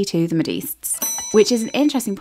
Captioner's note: bell dings